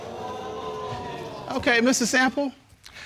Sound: audience gasping

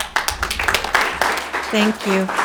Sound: audience applauding

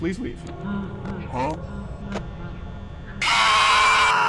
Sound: freddy laughing

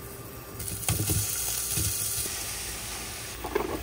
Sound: sizzling

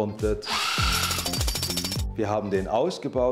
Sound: jackhammer rattle

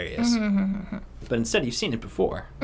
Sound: hums

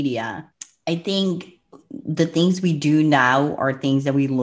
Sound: clicks tongue

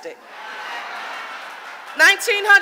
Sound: audience laughing

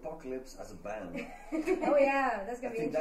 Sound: laughter

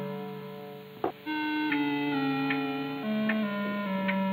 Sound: clock ticking

